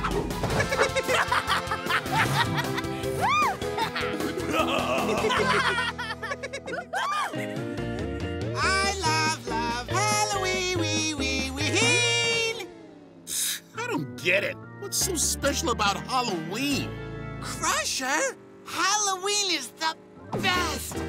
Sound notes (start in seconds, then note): 0.0 laughing; 3.2 giggling